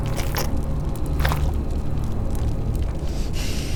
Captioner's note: splatter